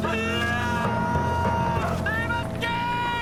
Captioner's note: screaming